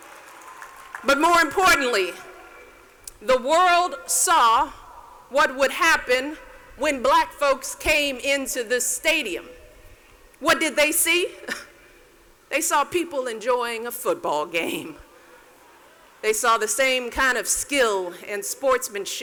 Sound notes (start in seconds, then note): 11.3 scoffs